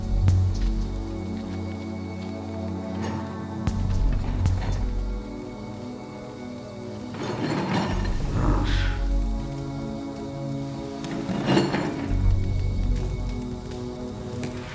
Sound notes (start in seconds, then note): 8.2 growling